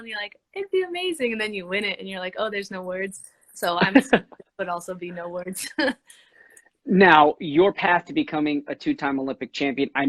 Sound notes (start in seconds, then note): 3.6 laughing